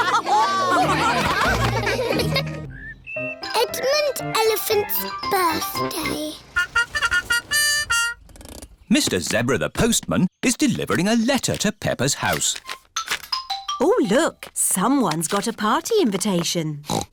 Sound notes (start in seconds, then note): 0.0 laughter; 6.5 horn tooting